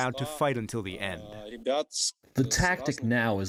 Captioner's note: through translator